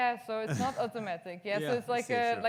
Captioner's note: audience member laughs